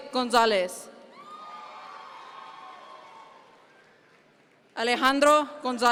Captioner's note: audience members cheer